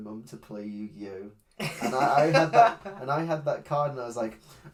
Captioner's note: laughs